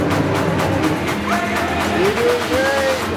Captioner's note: yelps